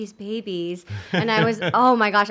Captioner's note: laughs